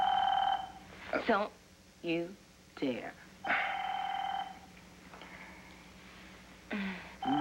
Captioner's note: telephone rings